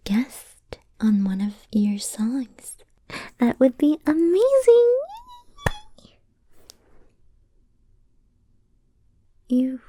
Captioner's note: squeals and claps excitedly